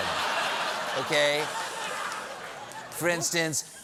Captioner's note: laughter